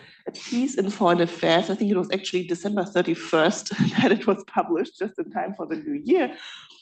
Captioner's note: laughs